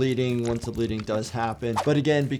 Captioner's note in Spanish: la sangre gorgotea